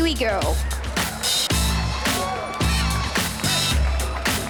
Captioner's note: crowd cheers